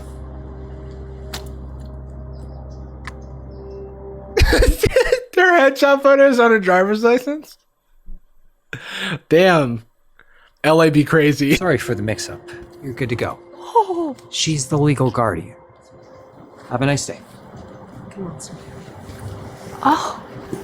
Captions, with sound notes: (dramatic music) (laughing) - Their head shot photo is on her driver's license. Damn. LA be crazy. - Sorry for the mix-up. You're good to go. - Whoa. - She's the legal guardian. Have a nice day. - Come on, sweetheart. - Oh.